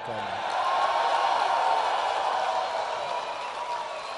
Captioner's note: applause